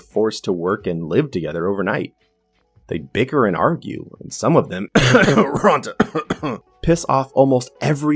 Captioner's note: cough